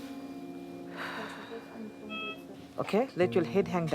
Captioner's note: exhales